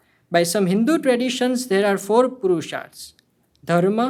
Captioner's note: speaking hindi